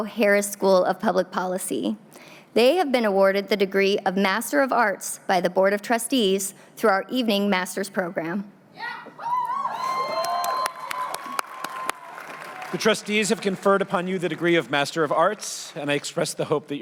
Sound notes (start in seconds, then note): 9.2 cheering